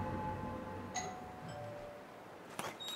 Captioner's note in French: Ding dong